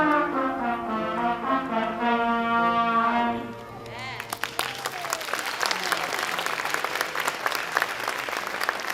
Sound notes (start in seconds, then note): 3.9 audience applauds